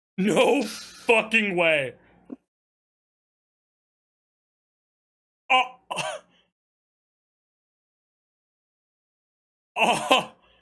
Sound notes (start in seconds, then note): 5.4 stammers and laughs nervously